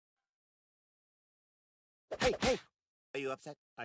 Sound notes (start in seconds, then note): 2.2 punch, punch